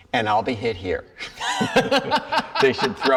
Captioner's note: laughs